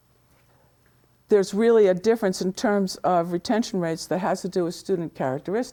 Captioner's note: none